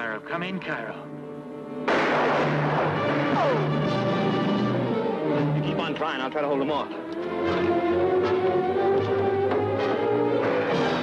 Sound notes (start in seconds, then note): 1.8 guns firing; 2.6 intense music; 8.2 intense music